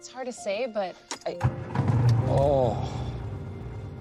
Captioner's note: engine rumbles to life